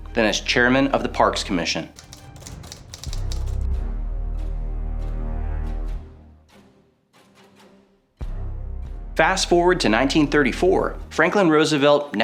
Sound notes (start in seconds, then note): 1.9 typewriter clacks; 2.0 tense music